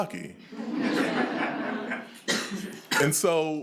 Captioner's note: attendees laughing